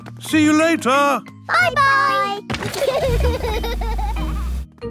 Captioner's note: laughter